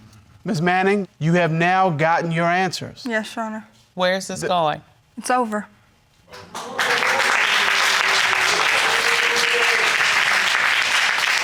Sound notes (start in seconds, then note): 6.3 audience applauding